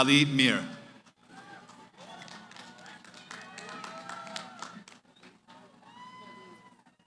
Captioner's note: cheering